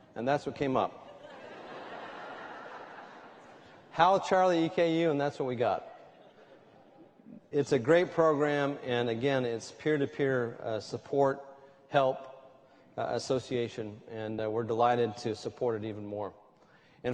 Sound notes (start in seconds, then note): 1.0 laughter